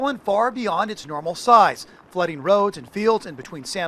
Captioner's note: water flowing